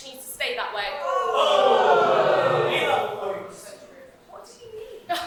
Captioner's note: audience ohh and heckle